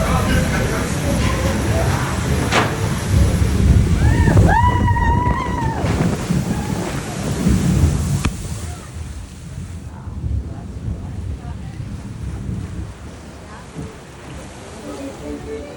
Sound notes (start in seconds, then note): 3.9 screams